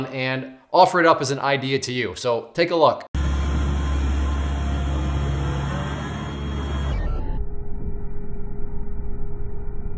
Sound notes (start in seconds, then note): 3.2 machinery whirring